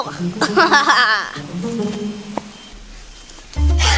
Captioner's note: laughs